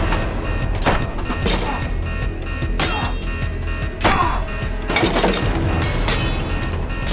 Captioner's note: alarm blaring; Gordon grunting; ax thudding; suspenseful music continues